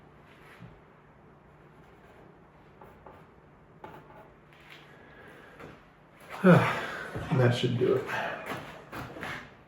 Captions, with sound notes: (sighs) That should do it.